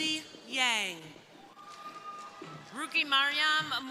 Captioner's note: crowd cheering